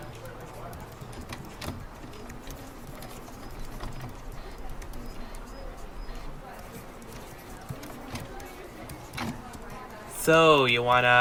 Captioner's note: office noises